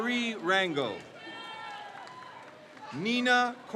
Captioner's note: crowd cheers